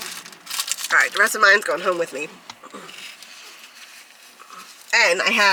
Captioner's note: crunching